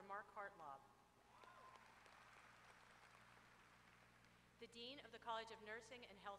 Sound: applause

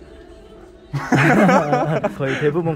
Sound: laughs

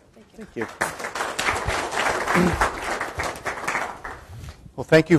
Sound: audience applause

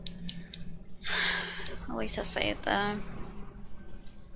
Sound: sigh

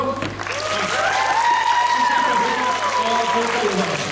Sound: applause

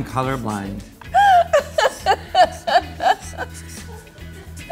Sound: laughs

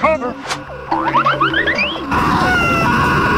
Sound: cartoon running sounds

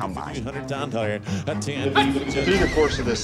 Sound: auctioneers calling

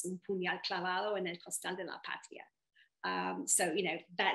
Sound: speaking in foreign language

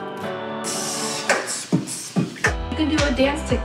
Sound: soft synthesizer music; beatboxing

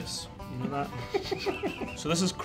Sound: laughing

